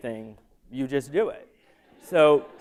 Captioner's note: laughter